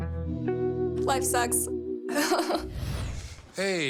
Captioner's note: laughs